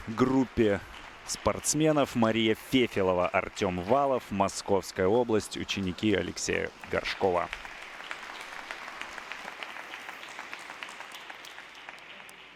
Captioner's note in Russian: аплодисменты